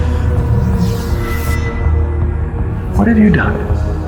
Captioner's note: energy whirring